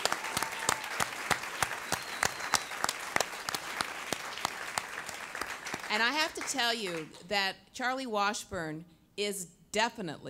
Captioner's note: applause